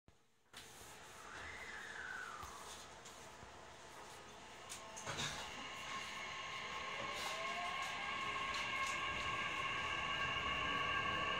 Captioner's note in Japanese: 加速音